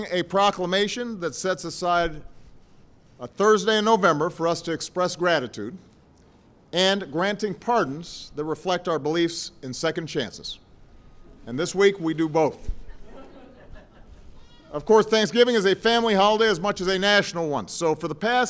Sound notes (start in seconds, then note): 12.8 laughter